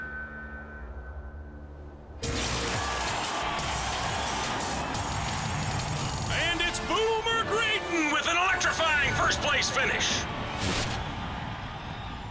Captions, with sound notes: (CROWD CHEERS) AND IT'S BOOMER GRAYDON... WITH AN ELECTRIFYING FIRST PLACE FINISH!